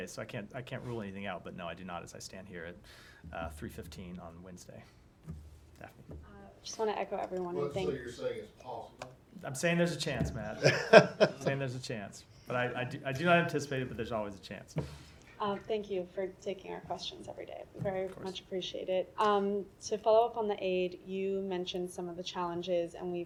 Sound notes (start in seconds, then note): 10.6 laughter